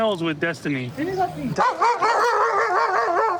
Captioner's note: speaking spanish; dog barking